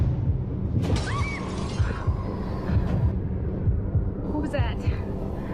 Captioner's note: screams